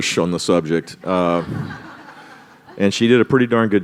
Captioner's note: laughter